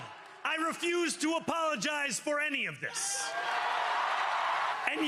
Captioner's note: cheering